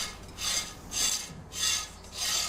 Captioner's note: scratching sound